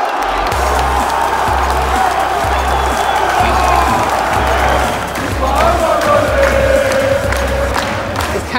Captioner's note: Jubel